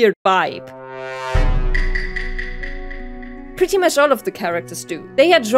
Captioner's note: sus sound